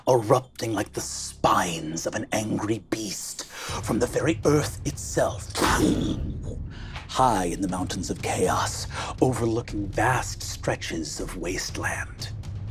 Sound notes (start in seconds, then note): 5.6 imitates an eruption